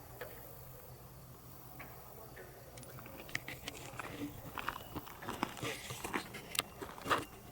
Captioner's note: katydids forest sounds